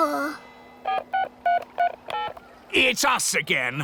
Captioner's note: dialing